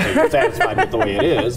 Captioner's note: laughing